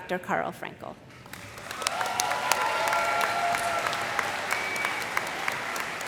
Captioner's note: cheers and applause